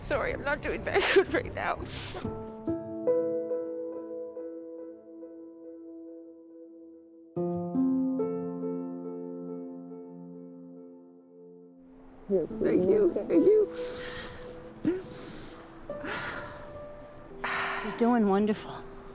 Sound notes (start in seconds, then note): 2.0 somber music playing; 13.6 sniffles, cries; 17.4 sighs